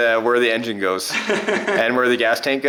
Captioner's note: laughs